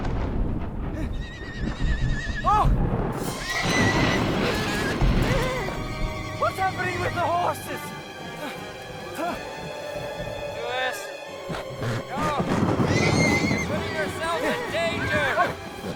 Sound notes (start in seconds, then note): 1.0 wild horse cries offscreen; 3.2 wild horse sounds; 11.9 music intensifies